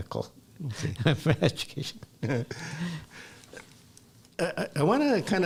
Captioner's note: laughs